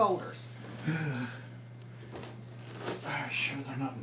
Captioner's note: Jerold heavily sighing